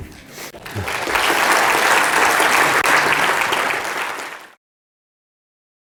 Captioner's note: laugh; applause